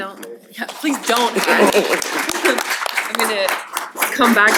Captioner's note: applause